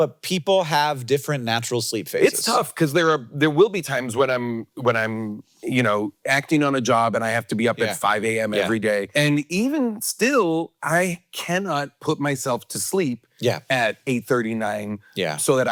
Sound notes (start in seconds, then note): none